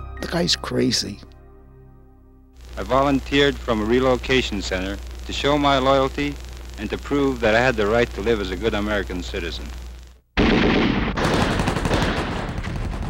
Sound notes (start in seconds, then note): 10.4 gunfire